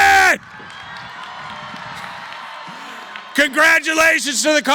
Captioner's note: cheering